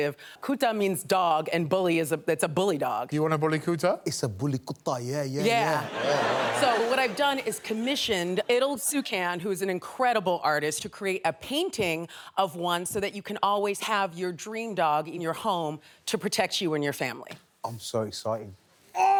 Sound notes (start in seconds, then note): 5.4 audience laughing